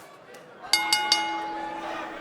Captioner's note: bell ringing